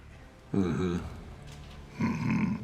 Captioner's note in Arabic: يقول بسخرية